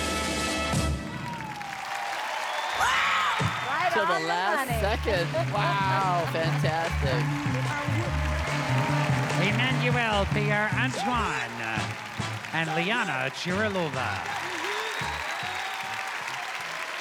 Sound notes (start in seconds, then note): 1.8 applause